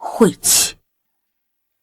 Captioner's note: sigh